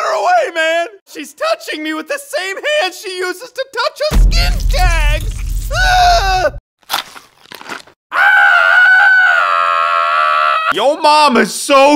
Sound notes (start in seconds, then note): 6.6 screaming